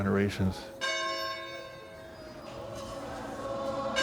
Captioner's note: bell tolls